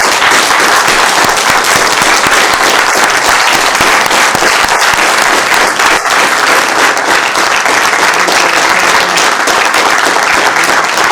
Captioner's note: applause